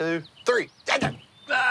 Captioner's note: screams